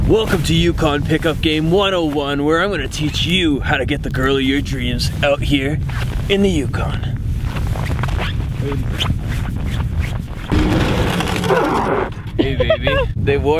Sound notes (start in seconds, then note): 8.9 snow pants squeaking; 11.3 snowmobile screeching to halt; 12.3 laughing